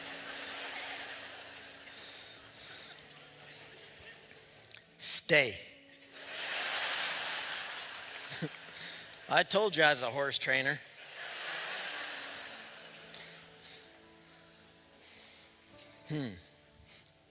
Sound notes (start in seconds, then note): 6.1 laughter